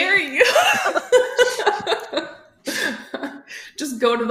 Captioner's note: laughter